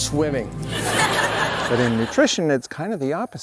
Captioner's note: audience laughs